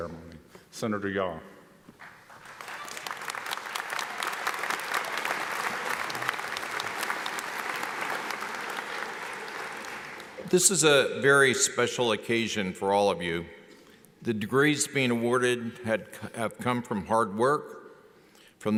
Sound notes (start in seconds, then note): 2.0 audience applauds